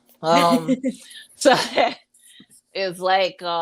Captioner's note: chuckles